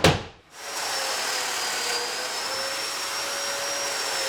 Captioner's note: equipment whirring